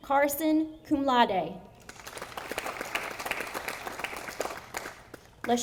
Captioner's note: audience applauding